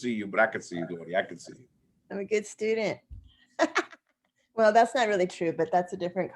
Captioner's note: laughter